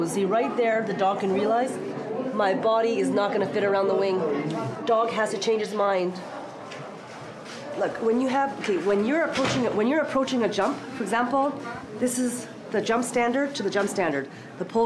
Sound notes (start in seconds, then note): none